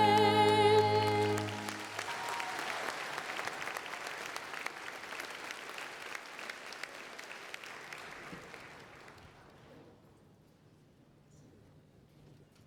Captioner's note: applause